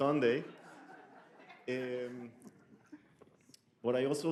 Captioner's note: audience laughs